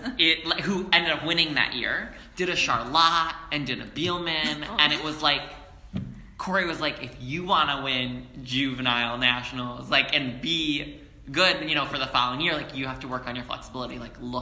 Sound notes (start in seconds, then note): 5.1 spin